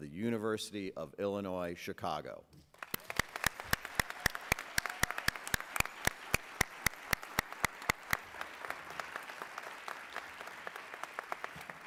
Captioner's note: applause